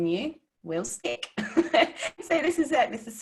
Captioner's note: laughing